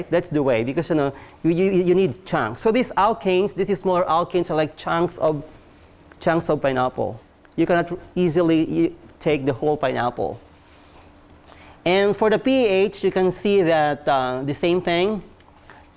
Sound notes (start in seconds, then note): none